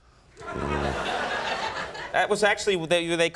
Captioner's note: audience laughing